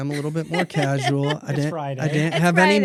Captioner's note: laughs